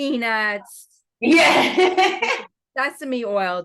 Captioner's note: laughs